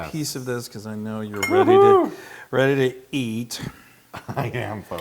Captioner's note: laugh